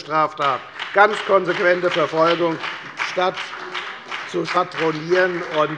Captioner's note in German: Beifall bei der FDP sowie bei Abgeordneten der SPD